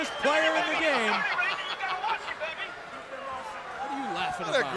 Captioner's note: Bobby laughs